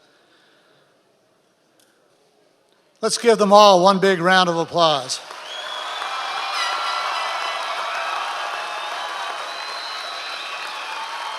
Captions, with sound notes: - Let's give them all one big round of applause. (members of the audience cheering and whistling)